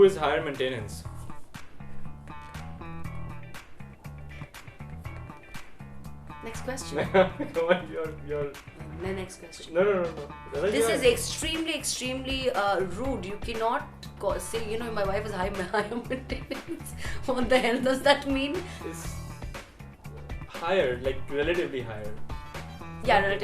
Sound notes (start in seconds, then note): 15.7 laughing